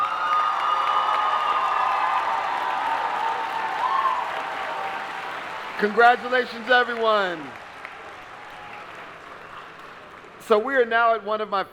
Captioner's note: applause